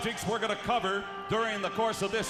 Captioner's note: crowd cheering